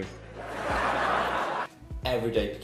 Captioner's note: laughter